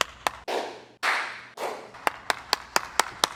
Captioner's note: clapping